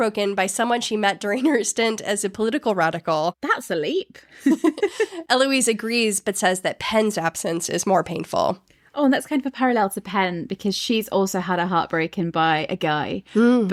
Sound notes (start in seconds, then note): 4.4 both laugh